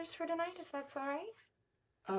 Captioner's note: none